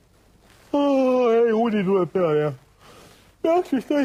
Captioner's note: yawn